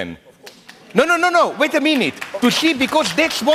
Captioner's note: applause